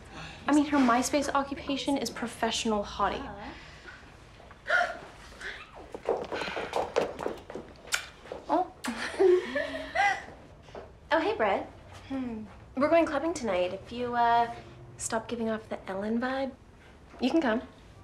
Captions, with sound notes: I mean, her MySpace occupation is "professional hottie." (gasps) Oh. (giggles) Oh, hey, Brit. We're going clubbing tonight. If you stop giving off that Ellen vibe, you can come.